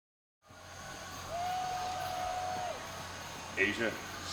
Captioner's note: crowd cheers